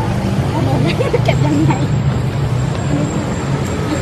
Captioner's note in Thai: เสียงหัวเราะ